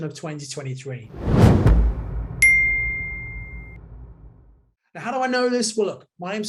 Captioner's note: dramatic music; logo dings